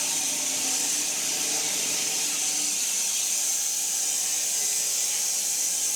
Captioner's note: woodcutting machine hissing continues